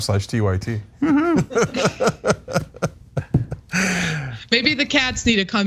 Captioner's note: laugh